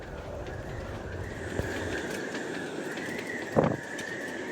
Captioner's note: wind howling